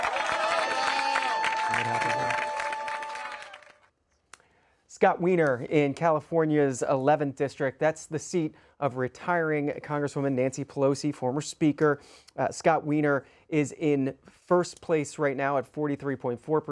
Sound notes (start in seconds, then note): 4.3 applause